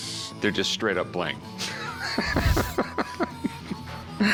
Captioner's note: laughs